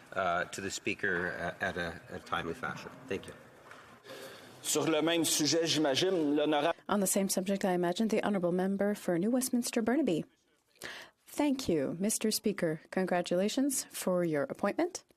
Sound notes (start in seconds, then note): 10.1 speaking French